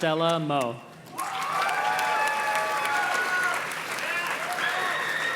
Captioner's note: audience cheers and claps